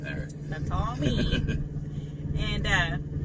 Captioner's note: laughs